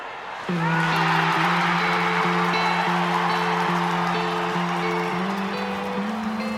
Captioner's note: crowd cheering; players shouting; gentle music